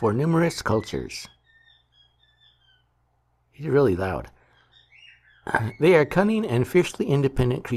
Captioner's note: bird singing